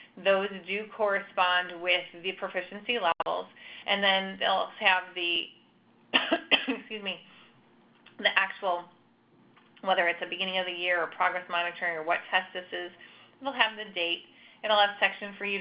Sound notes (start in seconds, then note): 6.1 coughing